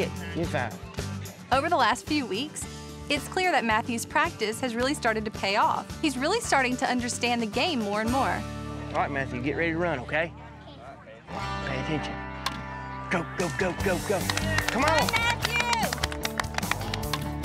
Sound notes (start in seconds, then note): 12.5 hits ball; 13.4 cheering